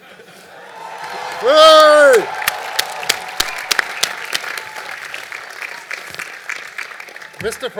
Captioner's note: cheering and Applause